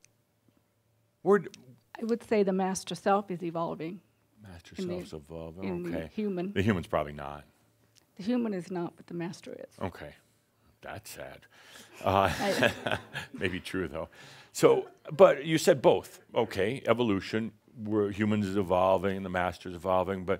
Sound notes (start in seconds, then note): 11.9 chuckles